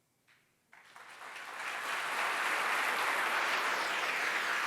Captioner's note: applause